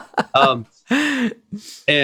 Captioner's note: laughter